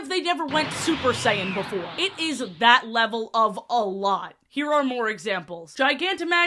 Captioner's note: dbz powerup sfx